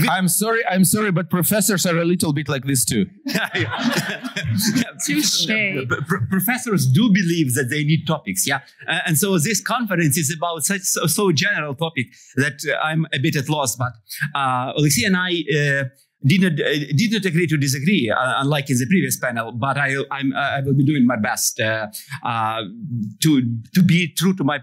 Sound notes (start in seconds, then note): 3.2 laughter